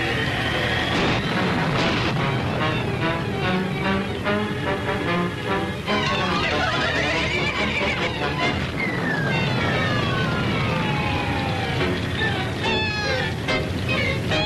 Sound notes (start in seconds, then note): 0.3 thunder rumbling; 3.2 suspenseful music continues; 6.0 glow worm laughing